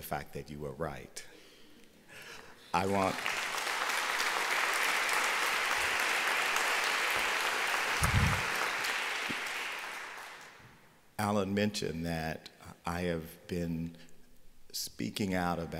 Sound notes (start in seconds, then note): 2.9 applause